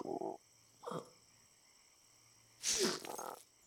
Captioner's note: croaks; groans; croaks